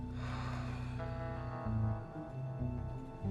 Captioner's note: sighs heavily